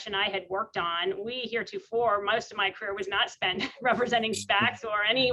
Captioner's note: laughs